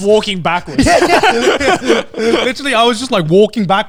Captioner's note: both laughing